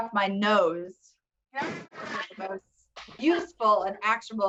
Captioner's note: laughs